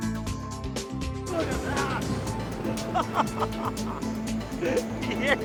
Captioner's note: laughs